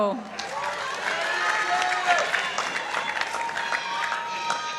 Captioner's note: participants applauding